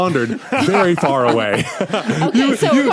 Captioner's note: group laughing